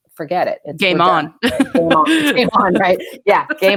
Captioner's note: laughs